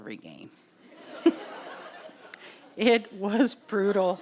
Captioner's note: audience laughs